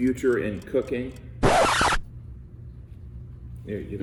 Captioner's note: record scratching